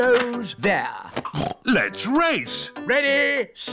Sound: snorts

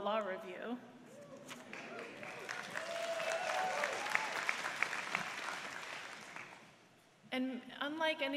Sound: applause

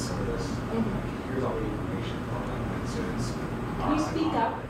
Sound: murmurs

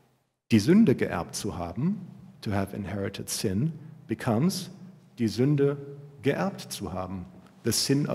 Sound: german

